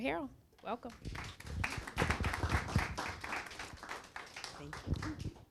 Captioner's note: applause